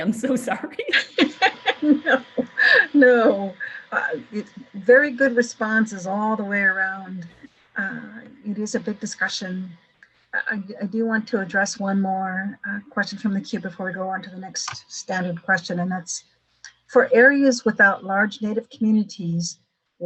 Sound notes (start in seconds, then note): 0.8 laughter